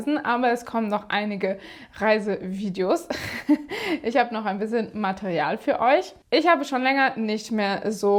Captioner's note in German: gelächter